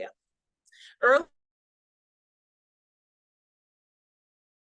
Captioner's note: audio cuts out